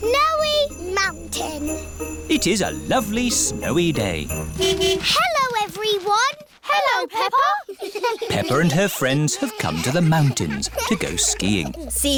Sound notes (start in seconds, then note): 4.0 horn honking; 7.5 giggling